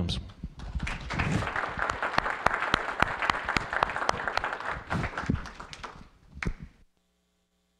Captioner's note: applause